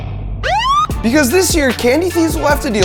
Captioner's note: siren blares